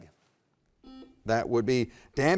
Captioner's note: button beeping